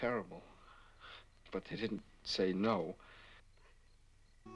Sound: sniffles

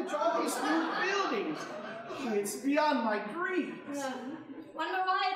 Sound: audience laughing

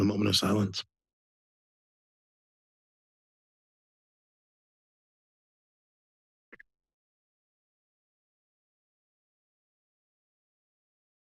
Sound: silence

